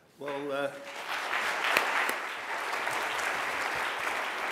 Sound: audience applauds

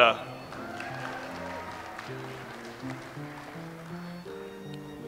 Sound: audience applauds

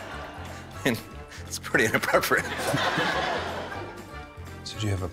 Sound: chuckles

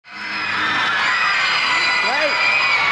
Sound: audience screaming

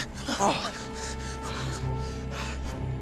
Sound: Rikki gasps

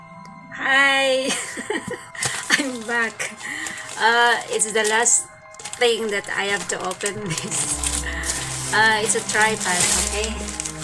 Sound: laughs

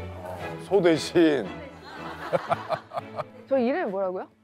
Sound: laughing

